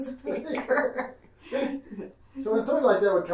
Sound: laughing

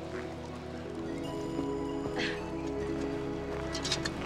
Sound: Aruna laughs

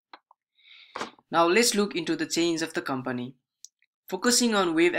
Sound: breathes

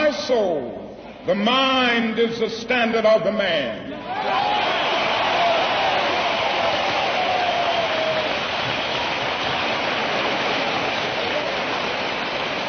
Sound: applause

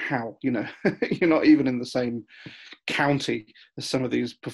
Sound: laughs

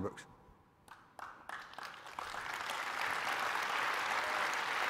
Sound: audience applauding

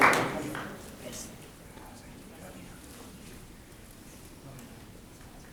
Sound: people chattering softly

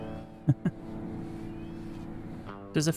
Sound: laughs

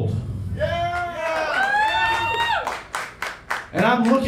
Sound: crowd cheering

